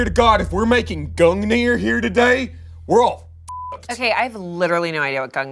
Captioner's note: beep